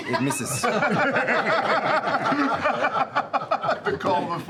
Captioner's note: laughter